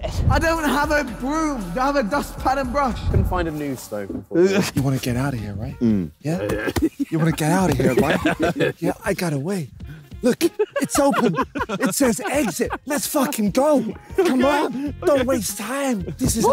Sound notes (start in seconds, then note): 8.7 laughing